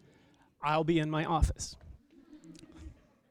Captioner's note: laughter